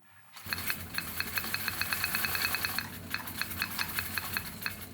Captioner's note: sowing machine whirring